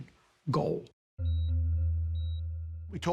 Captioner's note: monitor beeping